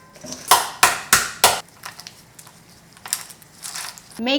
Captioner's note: crab cracking